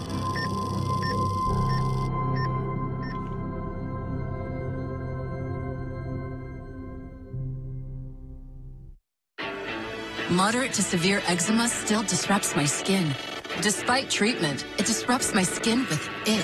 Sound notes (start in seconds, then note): 0.3 electronic chime; 2.9 EKG machine beeping